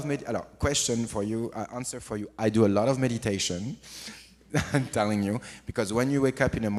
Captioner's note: laughs